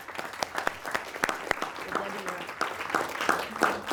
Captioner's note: audience clapping